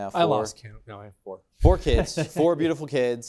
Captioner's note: laughs